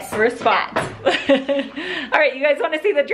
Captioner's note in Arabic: يضحك